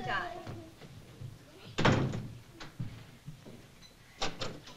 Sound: door closing

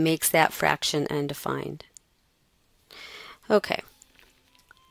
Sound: pause in Lecture

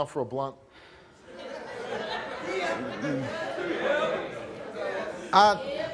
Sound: audience laughs and jeers

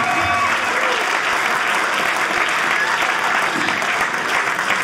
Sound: audience cheering

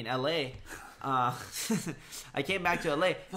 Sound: laughs

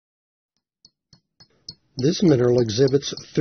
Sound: tapping

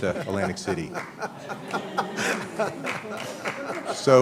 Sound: laughter

